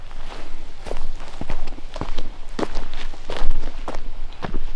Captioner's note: boots crunching dirt